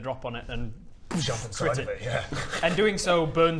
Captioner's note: boosh!